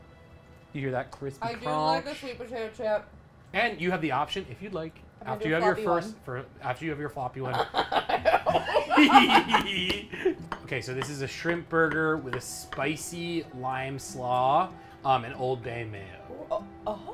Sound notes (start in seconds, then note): 7.4 laughs; 9.1 giggles